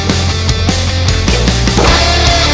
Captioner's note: clattering